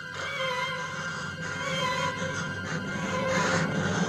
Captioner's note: woman panting